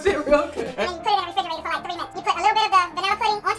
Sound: voice sped up

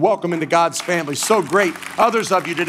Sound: congregation applauding

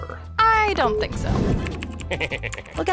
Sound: laughing

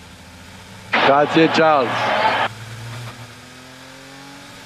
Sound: in Italian

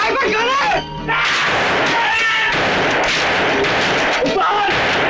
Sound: gunshot

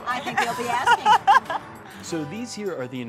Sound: laughter

